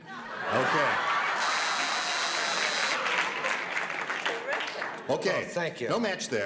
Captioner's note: buzzing